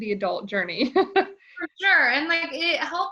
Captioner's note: laughs